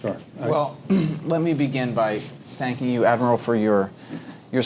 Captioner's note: cough